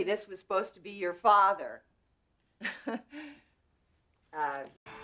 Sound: laughs

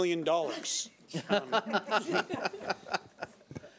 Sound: laughs

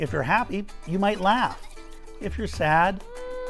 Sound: child laughing

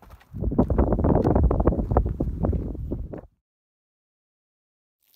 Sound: wind rustling with microphone

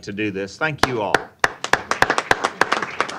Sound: applause

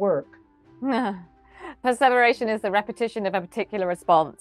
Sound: chuckles

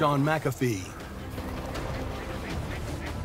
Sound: birds squawking

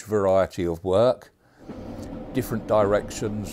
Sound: train rumbling

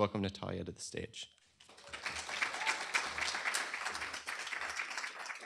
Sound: applause

